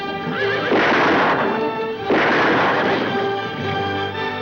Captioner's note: gunshots